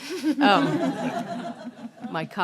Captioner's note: everyone laughing